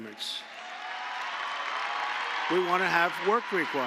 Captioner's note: applause